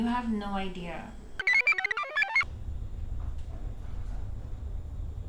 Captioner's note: computer chirps